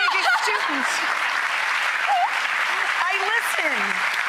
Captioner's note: audience applauding